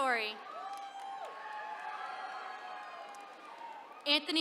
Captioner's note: attendees cheering